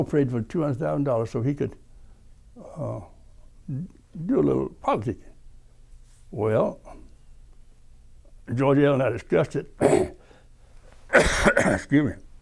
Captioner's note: coughing